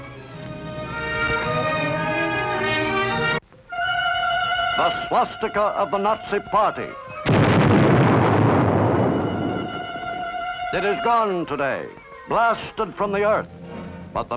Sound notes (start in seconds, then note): 0.0 somber music; 4.0 tense music; 7.2 explosion booms